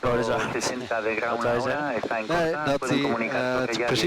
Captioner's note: laughing